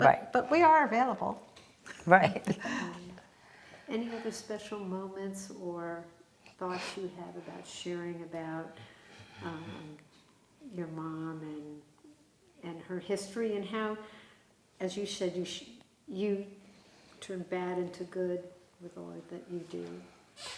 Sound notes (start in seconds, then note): 1.9 laughing